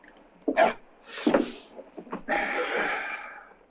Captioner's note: all gasp